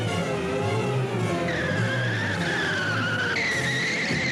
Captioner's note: wheels creaking